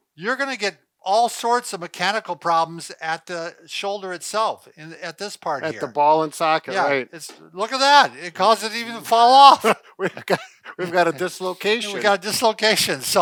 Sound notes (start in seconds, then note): 9.5 chuckling